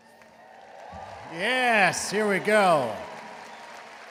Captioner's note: audience cheering